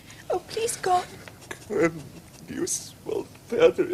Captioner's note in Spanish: Habla en Latín